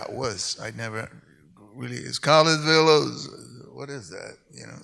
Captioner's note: hums